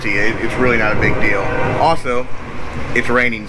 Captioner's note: train horn